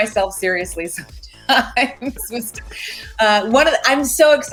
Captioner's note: laughs